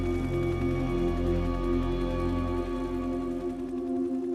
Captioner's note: helicopter whirs